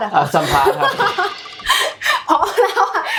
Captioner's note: laughs